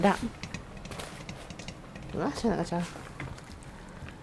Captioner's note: curry bubbling